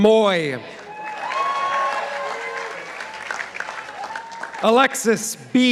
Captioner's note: participants applauding